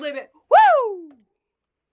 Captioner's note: shouts excitedly